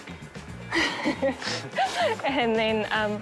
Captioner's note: laughs; chuckles